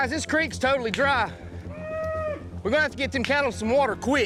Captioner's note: mooing